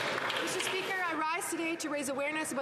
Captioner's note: cheering and Applause